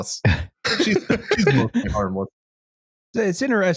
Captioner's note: laughs